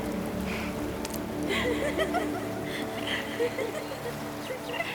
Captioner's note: laughing